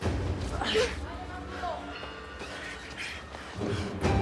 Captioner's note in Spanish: Quejidos